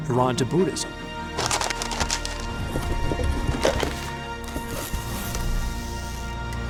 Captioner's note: bright music; box rustling